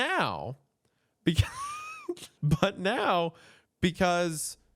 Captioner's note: laughs